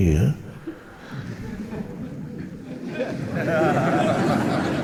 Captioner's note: audience laughing